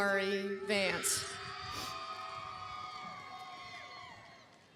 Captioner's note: cheering